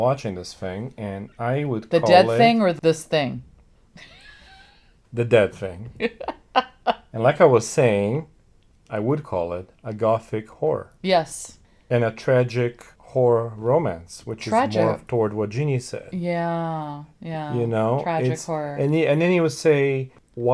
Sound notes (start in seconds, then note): 6.0 laughs